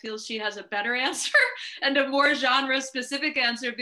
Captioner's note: laughing